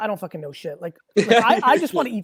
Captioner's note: laughs